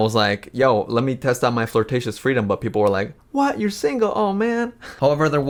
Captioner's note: chuckles